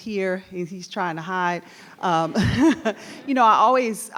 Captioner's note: laughs